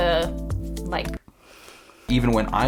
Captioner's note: breaths in sharply